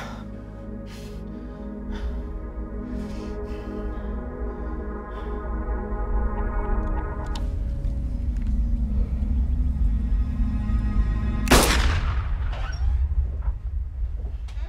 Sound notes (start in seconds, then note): 0.2 dramatic orchestral music rising; 7.3 gun clicking; 11.5 gun firing; 12.5 door opening